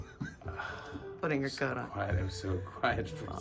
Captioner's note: laughs; heavy sigh; laughing